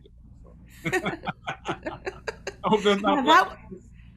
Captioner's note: laughing